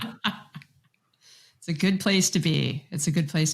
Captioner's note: laughs